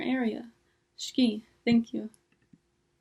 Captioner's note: speaking foreign language